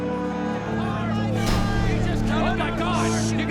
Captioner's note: crowd yelling